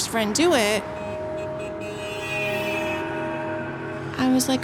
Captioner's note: horns honking